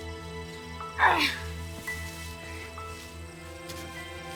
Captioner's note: grunting